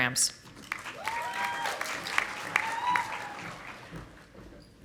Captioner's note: audience applauding